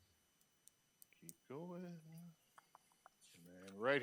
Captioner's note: clicks tongue